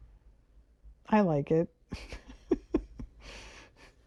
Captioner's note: laughs